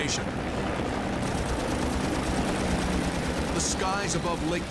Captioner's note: guns firing